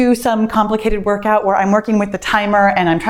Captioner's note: none